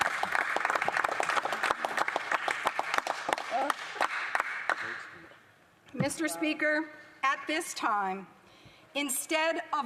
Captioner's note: applause